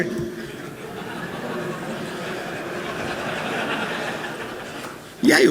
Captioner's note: laughter